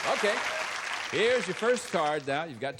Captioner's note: applause